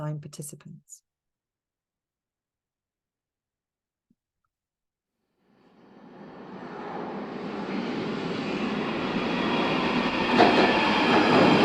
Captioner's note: sound of an underground train entering a station